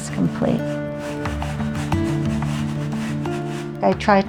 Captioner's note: paint brush strokes